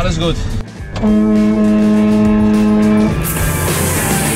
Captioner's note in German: hupen